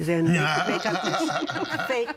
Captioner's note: all laughing